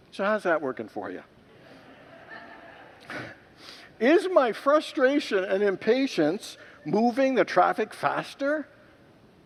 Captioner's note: congregants laugh